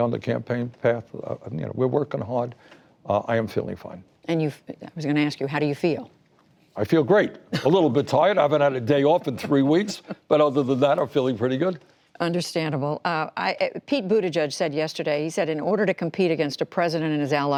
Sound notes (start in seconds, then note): 10.7 laughter